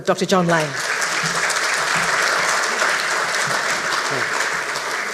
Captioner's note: audience clapping